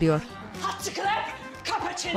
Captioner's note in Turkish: Almanca konuşma